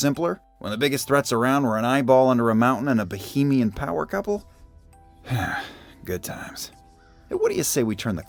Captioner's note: sighs